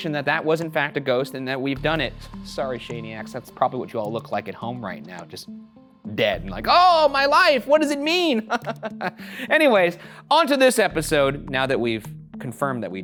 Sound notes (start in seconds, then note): 8.3 laughs